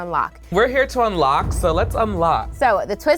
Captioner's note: whoosh